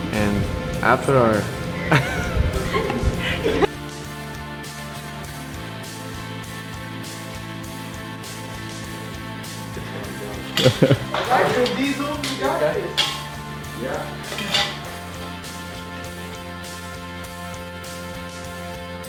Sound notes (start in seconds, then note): 1.8 giggling; 5.2 upbeat music; 16.3 upbeat music